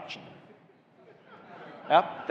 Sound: audience laughing

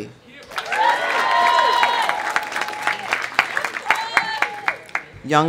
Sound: audience cheering; audience applauding

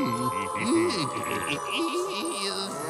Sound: giggling

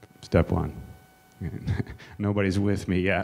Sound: chuckles

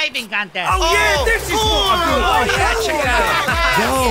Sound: excited exclamations

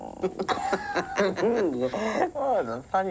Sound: laughing

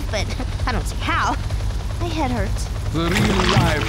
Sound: chuckling

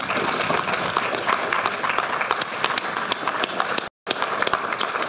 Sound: audience applauding

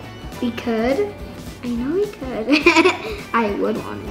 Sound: laughs

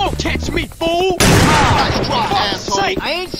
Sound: shotgun fires but it nearly misses the target

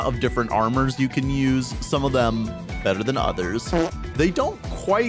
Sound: fart

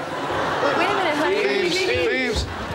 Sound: background laughter

